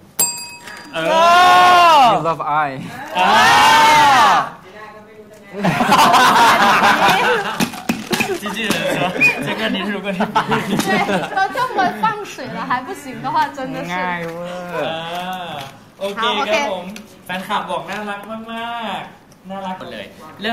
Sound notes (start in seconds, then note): 12.7 everyone laughs